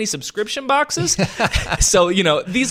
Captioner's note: laughing